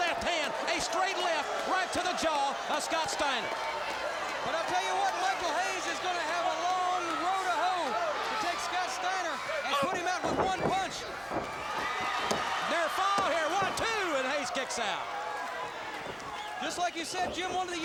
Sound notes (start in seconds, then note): 4.6 crowd cheering; 11.0 crowd cheering